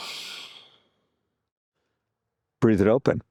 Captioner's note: exhales